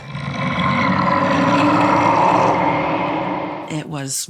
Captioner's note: low growling